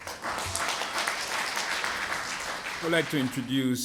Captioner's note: applause